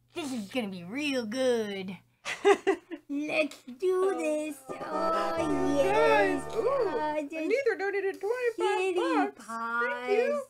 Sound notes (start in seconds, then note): 4.5 laughing; 5.7 in a sing-song tone